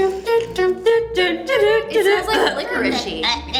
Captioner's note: girls humming